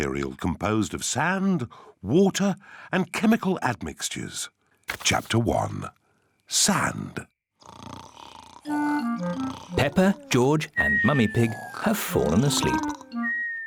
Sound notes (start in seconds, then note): 7.6 snoring